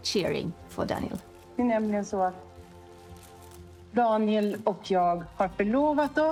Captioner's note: speaking in foreign language